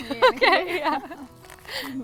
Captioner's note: giggles